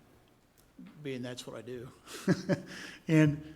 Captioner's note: chuckle